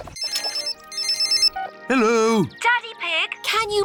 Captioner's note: phone rings